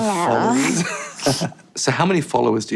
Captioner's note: interviewer chuckles